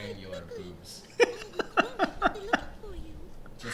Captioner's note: giggling